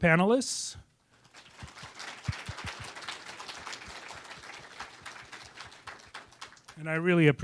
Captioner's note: applause